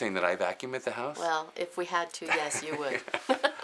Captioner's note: laughs